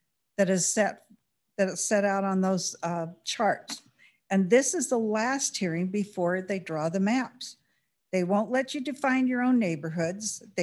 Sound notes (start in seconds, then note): none